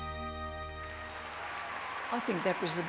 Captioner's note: audience applauding